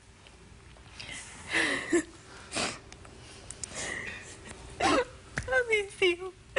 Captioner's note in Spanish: sollozos